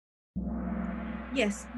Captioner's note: gong